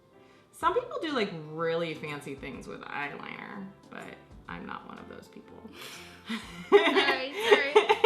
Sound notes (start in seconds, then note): 6.3 laughs